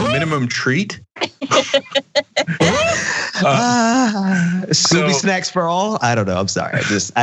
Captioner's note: laugh